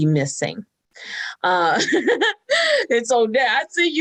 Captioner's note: laughs